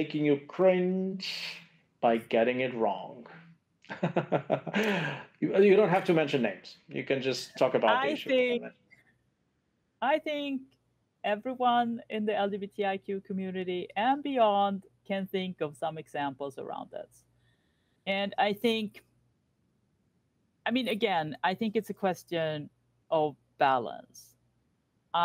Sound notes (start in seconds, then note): 3.9 laughs